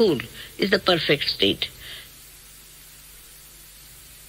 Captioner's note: silence